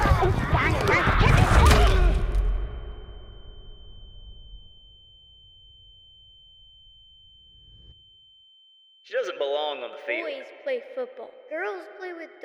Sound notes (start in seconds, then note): 1.6 thud; 1.6 ringing